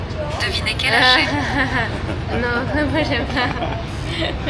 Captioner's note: A reluctant laugh